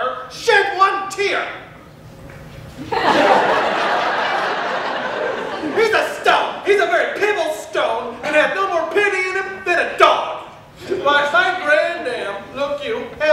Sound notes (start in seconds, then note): 2.8 audience laughter